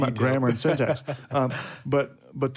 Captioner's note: speaker laughs